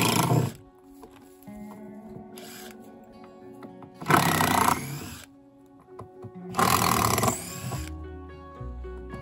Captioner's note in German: Geräusch einer elektrischen Bohrmaschine